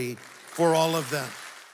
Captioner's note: applause